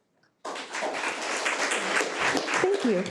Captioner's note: audience applauding